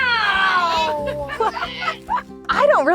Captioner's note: all laughing